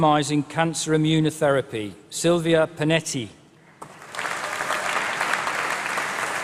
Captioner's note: applause